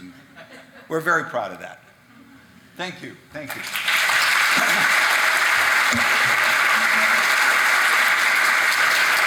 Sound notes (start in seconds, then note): 3.4 audience clapping